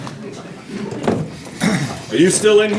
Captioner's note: audience laughing